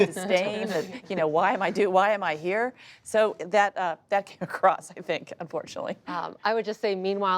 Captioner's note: laughs